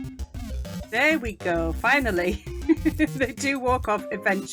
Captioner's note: laughing